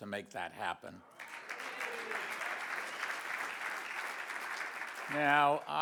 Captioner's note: audience applauds